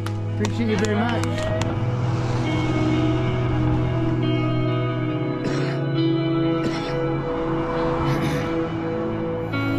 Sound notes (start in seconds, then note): 6.5 coughing deeply